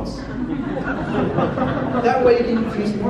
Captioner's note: audience laughs hard